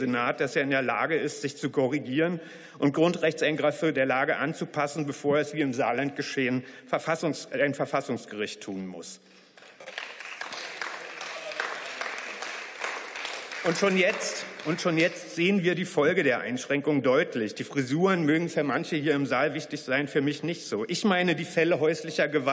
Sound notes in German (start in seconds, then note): 9.5 Beifall